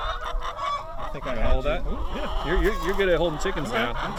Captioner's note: chickens clucking